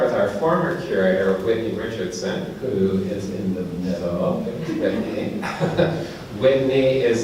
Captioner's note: laughs